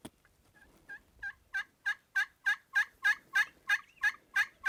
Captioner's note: turkey calling